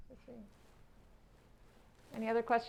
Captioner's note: mumbles